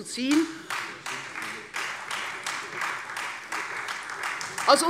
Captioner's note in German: Beifall Freie Demokraten